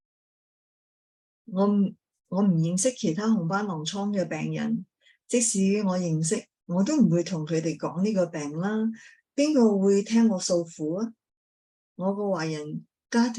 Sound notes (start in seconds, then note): 2.2 speaking chinese